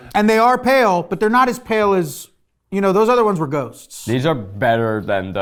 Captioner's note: none